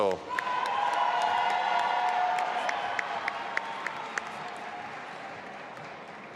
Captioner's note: audience applauding and cheering